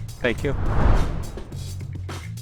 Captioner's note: airy whooshing; groovy music